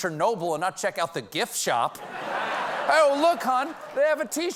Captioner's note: laughter